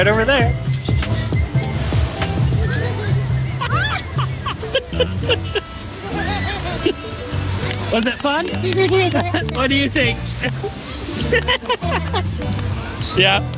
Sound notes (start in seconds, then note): 0.2 music, ambient sounds; 3.6 screams, laughing; 5.3 laughing; 8.9 laughing